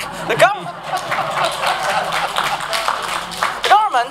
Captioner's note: applause